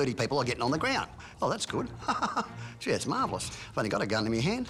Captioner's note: laughs